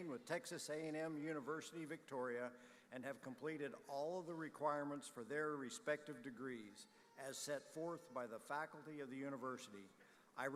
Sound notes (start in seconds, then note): none